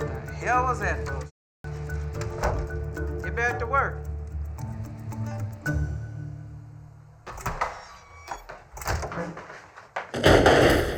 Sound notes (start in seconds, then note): 2.2 door closes; 7.2 door opens